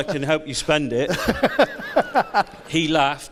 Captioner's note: laughs; audience laughs